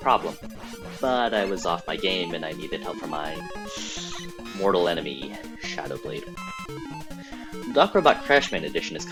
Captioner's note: inhales in disappointment